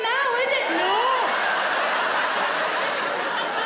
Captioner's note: laughing